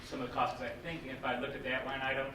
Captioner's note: none